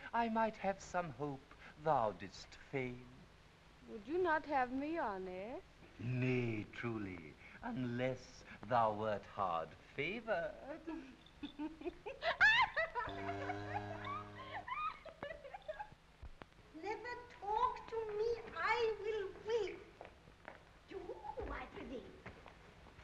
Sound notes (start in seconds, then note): 11.4 laughing; 13.0 cow mooing